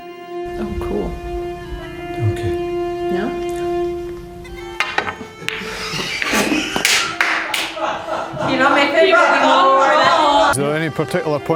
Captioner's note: laughter, indistinguishable